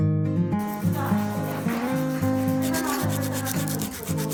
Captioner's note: rubbing